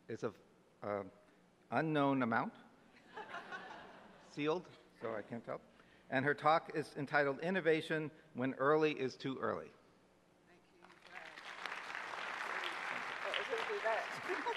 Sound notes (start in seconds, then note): 3.1 audience laughs; 10.8 audience applauds